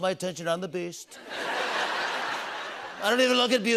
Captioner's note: laughter